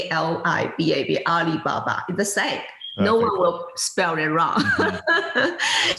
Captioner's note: laughing